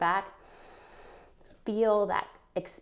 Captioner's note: inhales